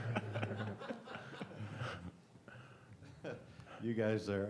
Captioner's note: laughter